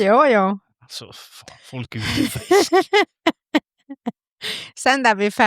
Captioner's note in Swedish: skratt